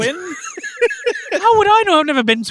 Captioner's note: giggling and wheezing